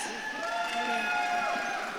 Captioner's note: audience claps and cheers